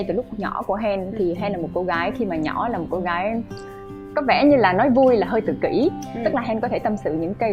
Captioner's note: laugh